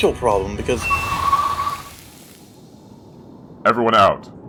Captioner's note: tires spin as the brakes screech